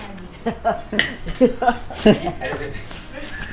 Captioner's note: laughs